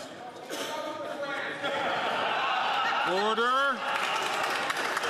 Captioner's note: some Applause